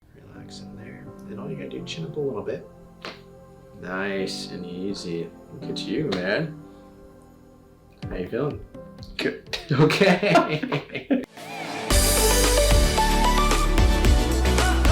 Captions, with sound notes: - Relax in there, (soft music) and all you gotta do, chin up a little bit. (neck cracks) Nice and easy. Look at you, man. How are you feeling? - Good. - Okay. (both laugh) (upbeat music)